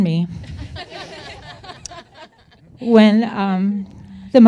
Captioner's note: crowd laughs